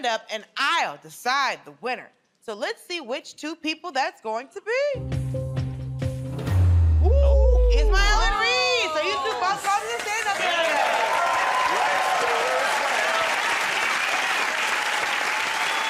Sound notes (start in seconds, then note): 14.1 cheers and applause